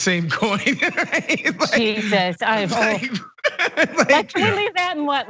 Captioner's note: laugh